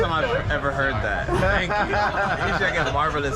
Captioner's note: laughs